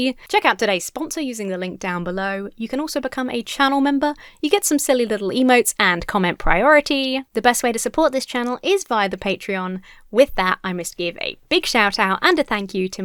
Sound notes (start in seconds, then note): none